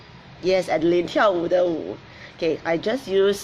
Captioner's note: speaks in foreign language